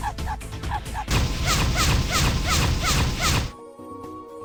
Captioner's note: sound of the game